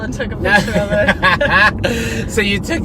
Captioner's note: laughing